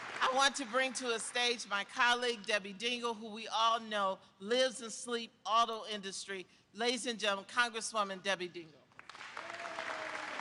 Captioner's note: applause